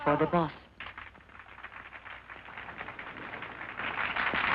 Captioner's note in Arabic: الحشد يصفق